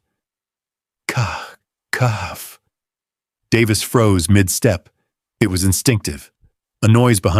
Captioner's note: sighs and gasps